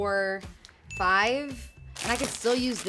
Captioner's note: ding